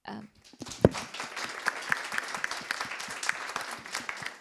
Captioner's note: audience applauding